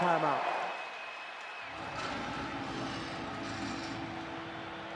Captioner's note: cheering